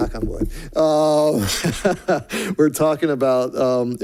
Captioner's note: laughs